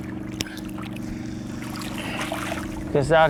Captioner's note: splash